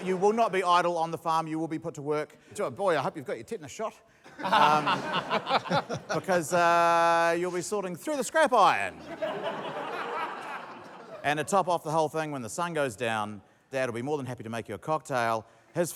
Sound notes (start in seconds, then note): 4.3 laughter; 8.9 laughter